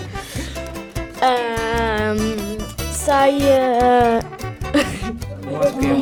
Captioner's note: laugh